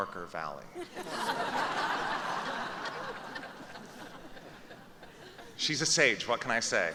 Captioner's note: laughter